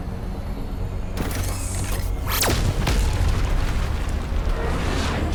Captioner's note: loud crashing; laser blasting